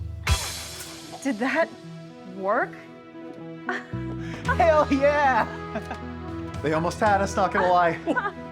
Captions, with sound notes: - Did that work? (laughs) - Hell yeah! (laughs) - They almost had us. Not gonna lie.